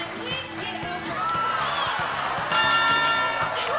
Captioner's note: applause; laughing